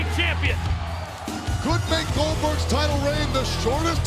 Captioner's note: applause